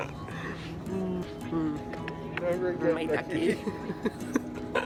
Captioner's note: kisses